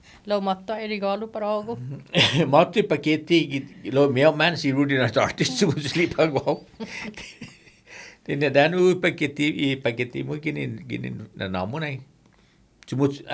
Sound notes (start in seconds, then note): 5.5 laughing